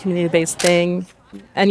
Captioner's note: shutter clicks